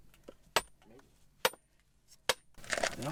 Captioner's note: hammer clanging